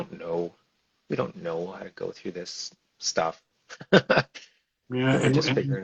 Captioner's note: laughs